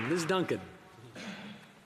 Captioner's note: some Applause